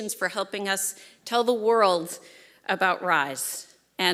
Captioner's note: none